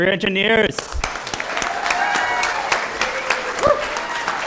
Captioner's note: applause